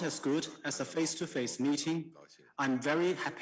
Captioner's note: speaking Foreign Language